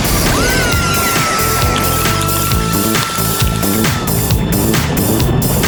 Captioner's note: screaming